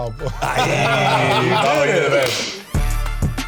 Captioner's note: all laughing and clapping; upbeat funky music